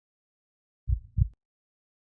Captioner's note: heartbeat